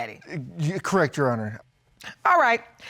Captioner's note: stutters